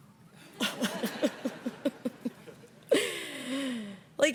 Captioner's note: all laugh